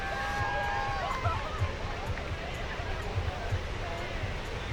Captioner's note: cheering